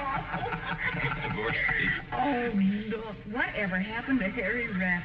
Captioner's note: laughing